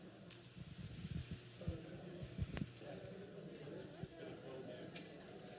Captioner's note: chatter